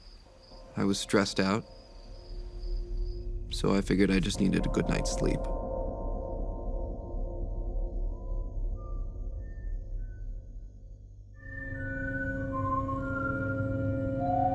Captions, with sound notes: I was stressed out, so I figured I just needed a good night's sleep. [whistling]